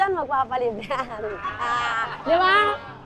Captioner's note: laughs